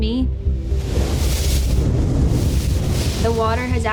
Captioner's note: waves crashing